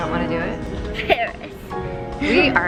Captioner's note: giggles